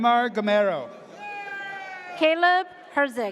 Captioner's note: audience cheers